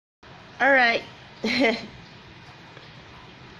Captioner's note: laughs